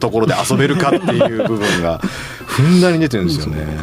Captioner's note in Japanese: 笑い